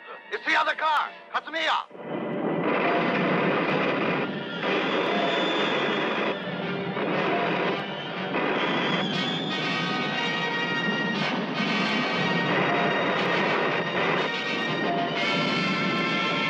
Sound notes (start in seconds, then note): 2.8 lasers blasting; 2.8 suspenseful orchestral music